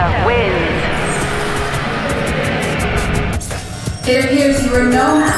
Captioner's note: crowd